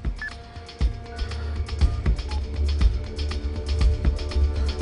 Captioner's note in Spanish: Sonido al marcar